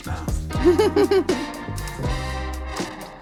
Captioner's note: laughs; smooth music